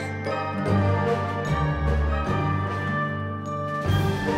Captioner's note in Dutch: klokken luiden